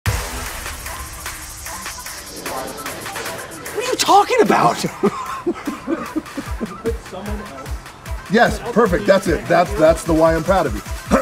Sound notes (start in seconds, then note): 0.2 upbeat techno music; 5.2 laughing